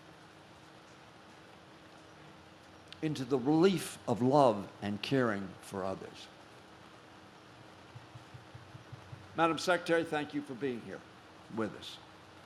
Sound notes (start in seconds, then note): none